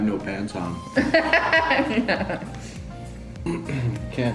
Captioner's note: laughing